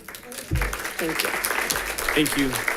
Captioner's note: audience applauding